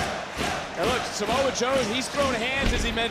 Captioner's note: audience chanting "joe, joe"